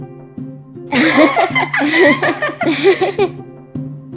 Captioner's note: Phoenix and Weltrin laughing